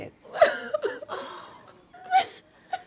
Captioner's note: cries